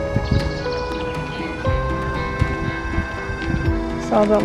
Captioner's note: birds chirping